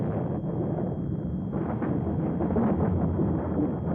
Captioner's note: explosions